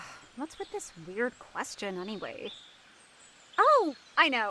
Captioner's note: mumbling